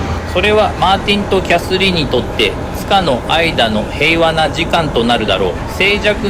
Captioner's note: speakers speaking foreign language